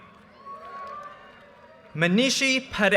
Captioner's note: audience cheers and applause